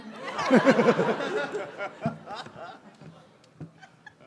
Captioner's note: maniacal laughter; amused sounds; giggles??